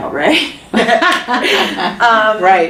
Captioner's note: chuckle; laughs